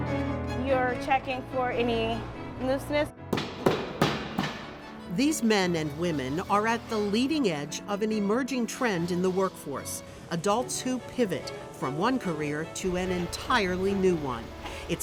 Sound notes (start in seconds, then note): 3.3 tool banging